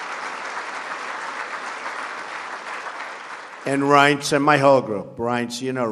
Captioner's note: applause